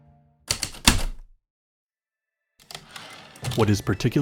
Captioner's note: typewriter keystrokes, return slide